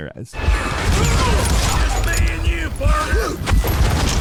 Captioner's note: gunshots